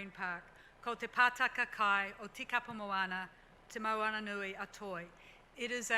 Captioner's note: speaks foreign language